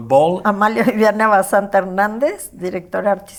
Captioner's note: in Spanish